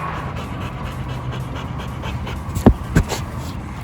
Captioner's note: dog panting